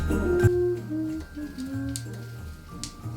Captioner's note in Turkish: şarkı mırıldanıyor